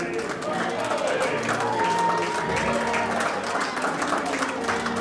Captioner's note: applause, cheering